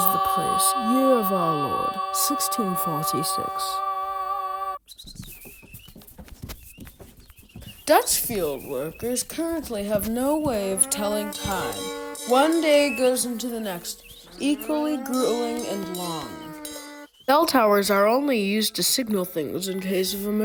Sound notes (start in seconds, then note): 5.8 birds chirping, workers plowing; 10.4 cow moos, cowbell clangs, birds continue